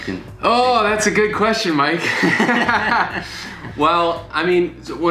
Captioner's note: laughing